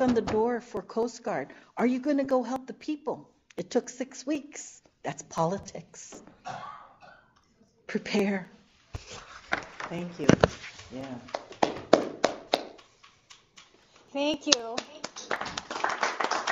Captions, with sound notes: on the door for Coast Guard. Are you going to go help the people? It took six weeks. That's politics. Prepare. Thank you. [APPLAUSE] Thank you.